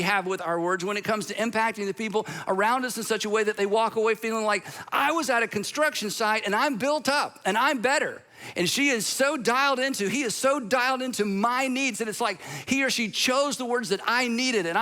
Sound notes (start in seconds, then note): none